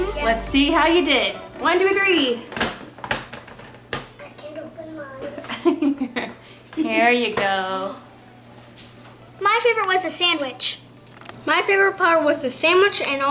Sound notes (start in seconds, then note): 2.5 plastic snapping; 5.5 giggling